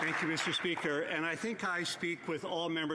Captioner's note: applause